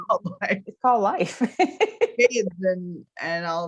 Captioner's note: laughs